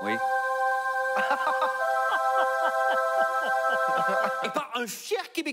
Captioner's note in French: Rires